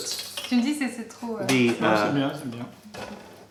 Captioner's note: french